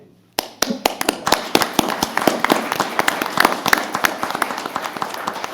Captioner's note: applause